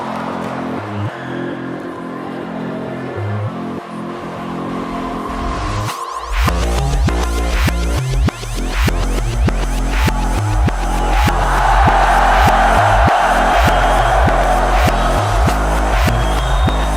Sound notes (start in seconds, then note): 8.8 upbeat music continues; 9.8 crowd roars; 11.1 upbeat music continues